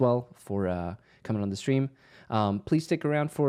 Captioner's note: none